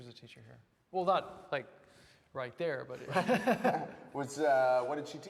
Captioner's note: laughs